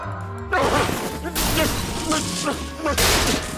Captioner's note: grumbling